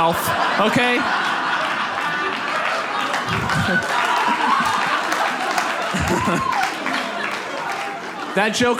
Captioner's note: audience laughs